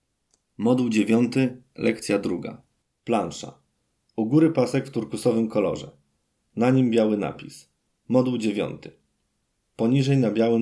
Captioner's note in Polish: Głos męski z offu, audiodeskrypcja planszy